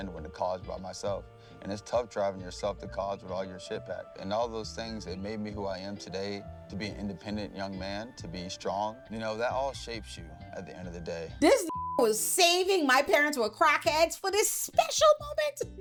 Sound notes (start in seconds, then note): 11.6 beep